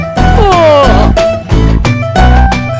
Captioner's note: he also yawns